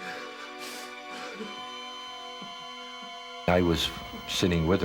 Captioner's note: alarm ringing